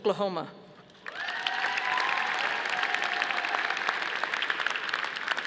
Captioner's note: audience applauding